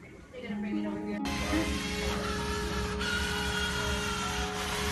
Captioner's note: whirring